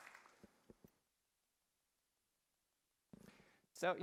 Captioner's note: applause